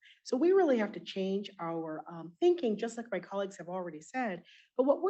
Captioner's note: none